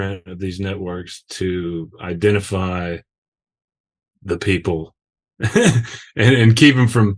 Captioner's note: laughs